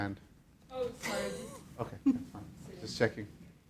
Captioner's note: audience member sniggers